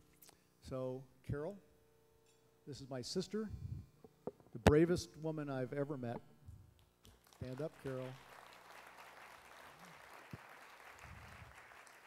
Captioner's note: applause